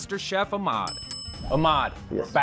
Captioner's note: bell dinging